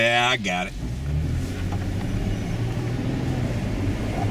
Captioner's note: engine roars